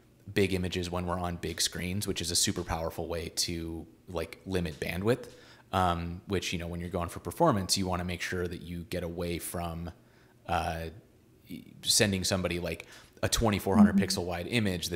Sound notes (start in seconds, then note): none